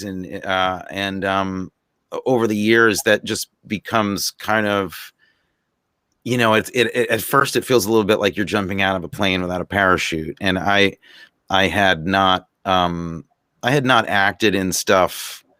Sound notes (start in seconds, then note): none